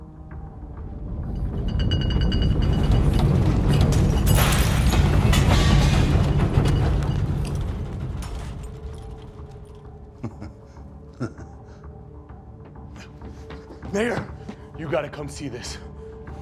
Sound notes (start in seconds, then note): 1.2 rumbling; 11.0 chuckles